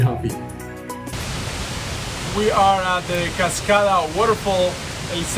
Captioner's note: waterfall